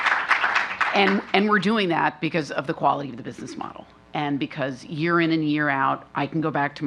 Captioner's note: applause